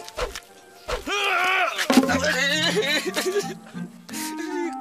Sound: grunts, whimpers

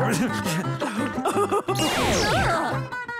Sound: laughing

